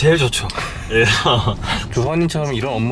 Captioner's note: laughs